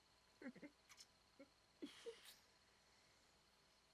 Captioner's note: both laughing